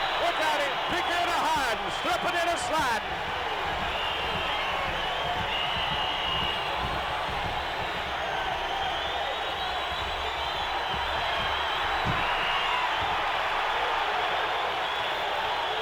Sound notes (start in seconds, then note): 3.5 audience cheering